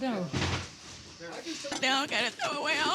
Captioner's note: dishes crashing; crying